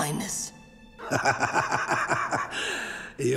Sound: laughing

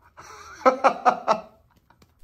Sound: laughing

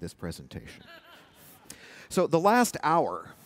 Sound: laughter

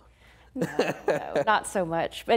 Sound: laughing

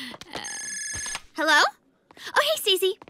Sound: cell phone rings

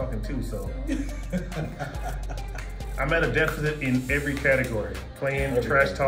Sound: laugh

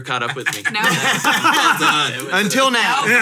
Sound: hosts laugh

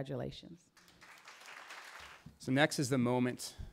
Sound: applause

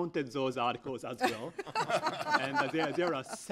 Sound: laughter

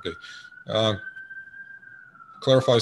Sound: ambulance bellows in the background

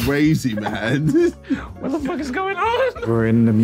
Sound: laughing

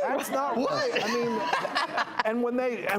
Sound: laughing

